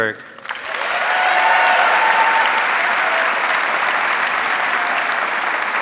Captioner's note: audience cheering and applauding